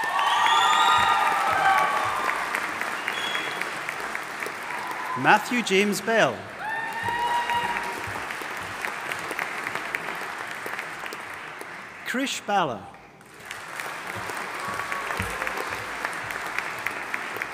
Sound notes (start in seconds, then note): 0.1 audience applauding and cheering; 7.1 audience applauding and cheering; 13.2 audience applauding